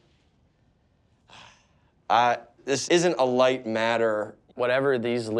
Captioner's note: sighs